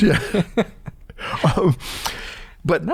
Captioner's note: laughter